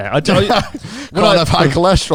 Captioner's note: laughs